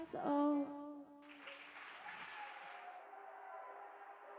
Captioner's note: crowd cheers